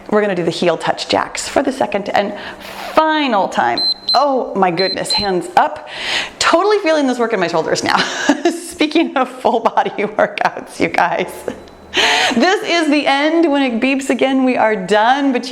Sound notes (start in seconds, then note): 4.7 timer beeps